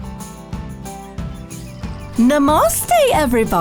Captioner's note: birds chirping